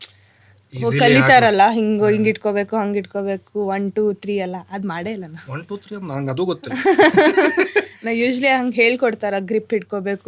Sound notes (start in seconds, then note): 6.7 both laugh